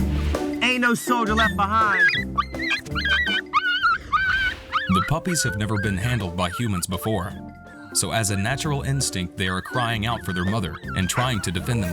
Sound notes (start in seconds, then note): 0.7 puppy crying; 11.7 dog barking